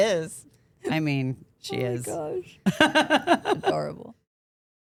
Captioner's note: laughs